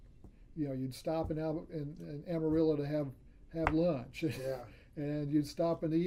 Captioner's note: laughs